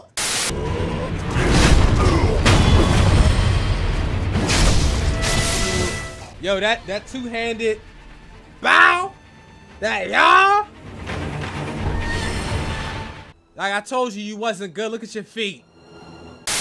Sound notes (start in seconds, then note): 0.1 static; 1.3 sword clashes and Deathblow rings